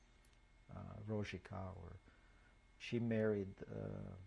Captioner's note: non-english